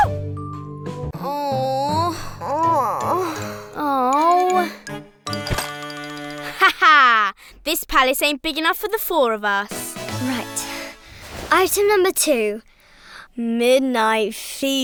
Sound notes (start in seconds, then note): 0.0 relaxed music; 1.2 groaning